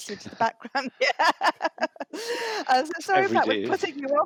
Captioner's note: laughter